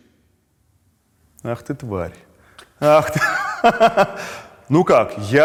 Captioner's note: both laugh